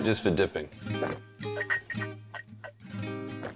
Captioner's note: gulps